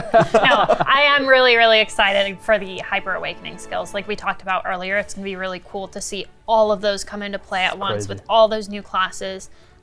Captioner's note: laugh